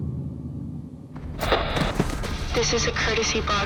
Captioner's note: radio hissing